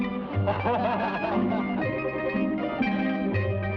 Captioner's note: men laugh; somber guitar music